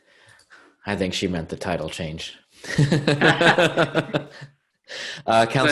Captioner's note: chuckling